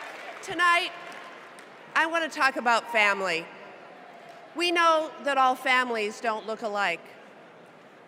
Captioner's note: cheers and applause